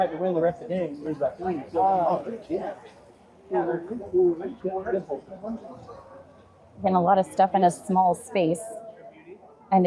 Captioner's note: crowd chattering